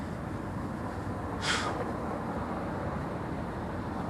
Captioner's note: he exhales